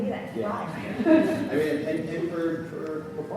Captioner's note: everyone laughs